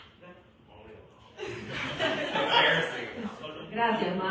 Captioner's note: laughter